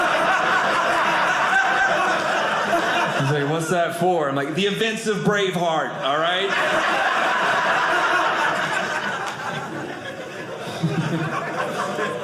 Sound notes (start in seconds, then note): 0.0 audience laughing; 6.2 audience laughing